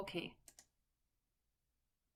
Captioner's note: click